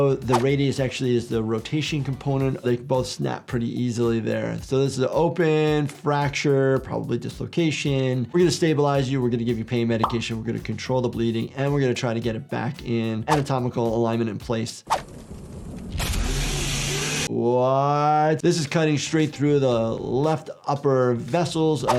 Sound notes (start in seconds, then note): 16.0 chainsaw buzzing